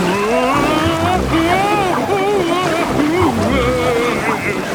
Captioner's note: Daddy Pig shouting